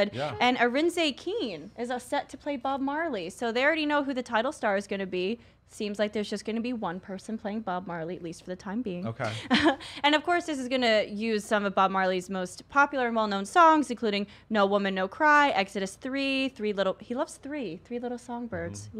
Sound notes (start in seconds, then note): 9.2 chuckles